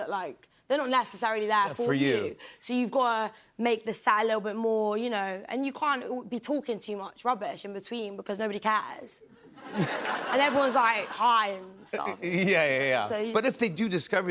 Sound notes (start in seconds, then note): 9.4 laughter